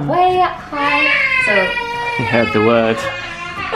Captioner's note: baby crying